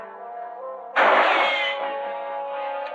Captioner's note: gunshot